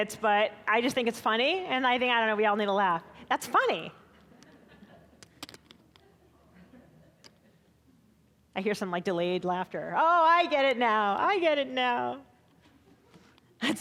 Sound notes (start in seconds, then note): 4.5 scattered laughing